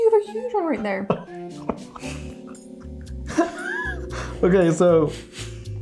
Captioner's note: laughing